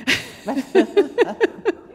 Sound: laughter

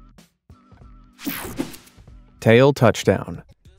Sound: screen whooshing

